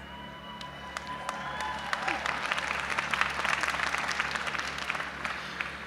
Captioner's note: audience applauding and cheering